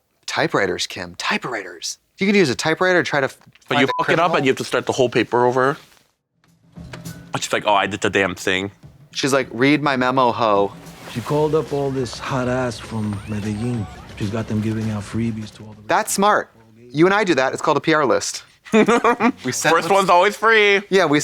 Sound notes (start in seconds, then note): 18.6 Kim hee-hees